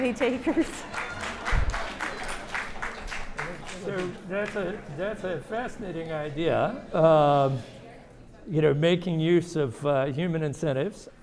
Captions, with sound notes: - Any takers? (audience applauding) - So that's a fascinating idea. You know, making use of human incentives.